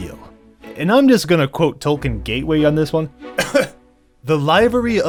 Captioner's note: throat clear